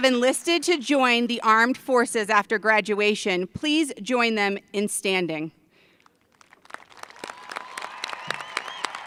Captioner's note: applause